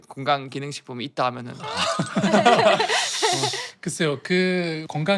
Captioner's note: laughing